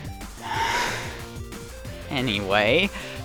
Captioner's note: frustrated sigh